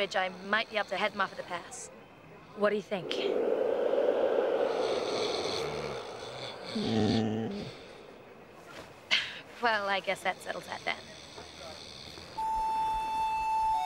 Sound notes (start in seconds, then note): 5.0 Will snoring